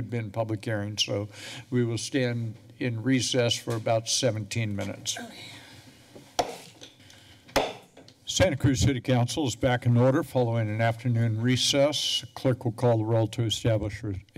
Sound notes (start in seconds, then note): 7.5 gavel tap